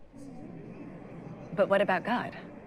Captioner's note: audience murmurs